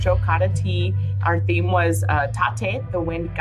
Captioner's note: speaks in native language